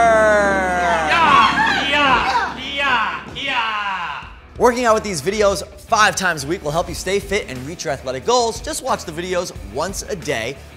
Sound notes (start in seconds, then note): 0.0 both shouting kiais